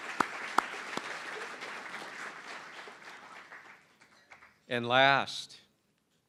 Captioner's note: applause